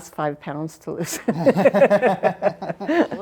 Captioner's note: laughs